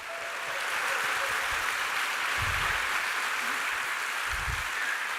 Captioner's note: applause